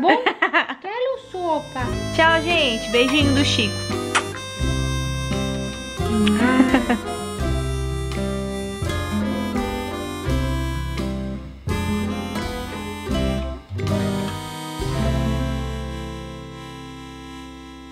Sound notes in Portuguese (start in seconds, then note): 0.0 Risos; 4.0 Barulho de beijo